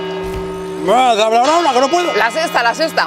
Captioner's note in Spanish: Sexta campanada